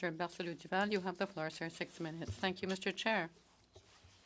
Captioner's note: speaking French